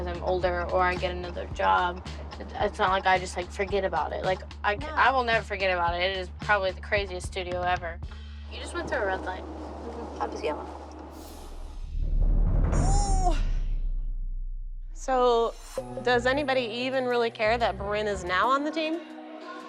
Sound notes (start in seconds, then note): 12.7 groans